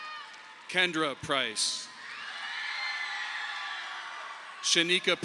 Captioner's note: audience applauding